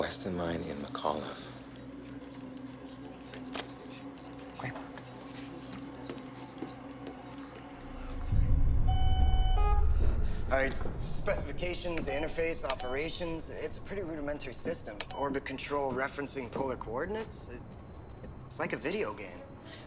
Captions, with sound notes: Weston Mine in McCollough. Great work. (beeping) All right, specifications, interface, operations-- it's a pretty rudimentary system. Orbit control, referencing polar coordinates? It-- it's like a video game.